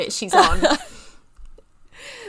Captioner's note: laughing